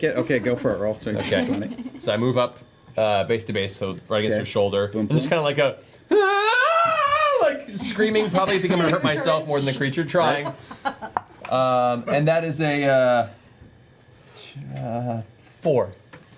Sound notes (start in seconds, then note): 6.1 screams